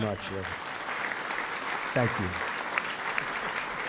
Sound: applause

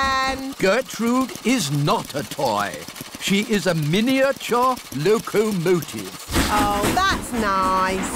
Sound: none

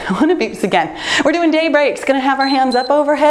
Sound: timer beeps

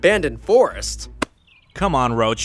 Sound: pizza thuds

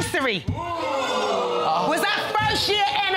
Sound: audience exclaiming

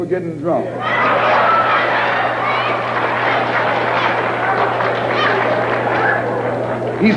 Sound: cheering

